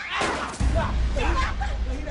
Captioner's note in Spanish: Disparo